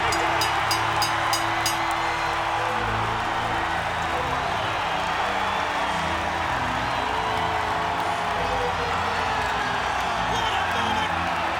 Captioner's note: applause